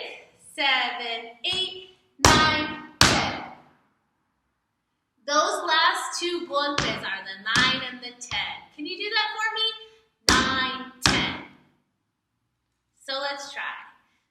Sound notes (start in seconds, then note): 2.2 stomp; 11.0 stomp